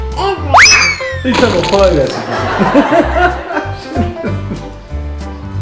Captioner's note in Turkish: kahkaha sesi